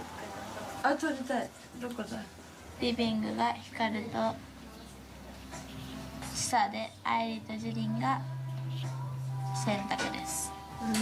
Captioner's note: speaking in foreign language